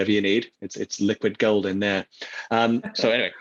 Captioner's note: laughs